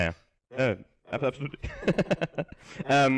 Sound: laughs

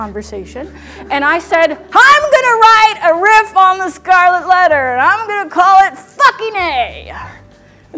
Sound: yelling

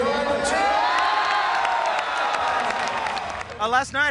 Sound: crowd cheers

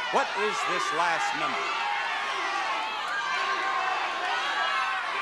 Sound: audience murmuring

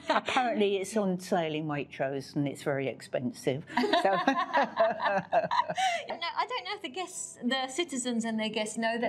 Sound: laughs

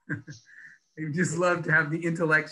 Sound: laughs

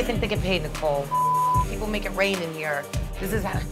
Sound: beep

